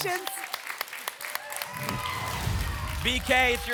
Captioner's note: applause and cheering